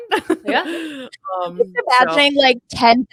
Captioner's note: chuckles